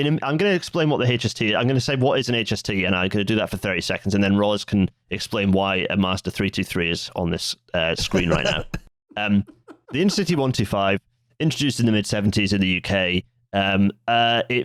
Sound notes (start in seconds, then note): 8.0 laughs; 8.0 laughs quietly